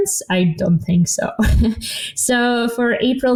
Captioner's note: chuckling